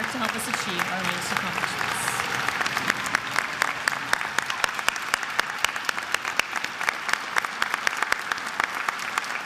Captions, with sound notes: and work to help us achieve our accomplishment. (attendees applauding)